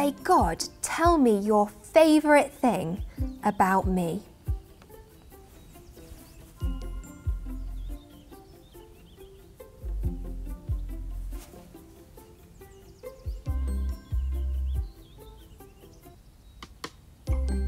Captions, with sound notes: "God, tell me Your favourite thing about me." (soft cheerful music) (birds chirping) (soft cheerful music continues)